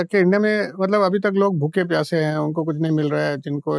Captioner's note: speaking in Hindi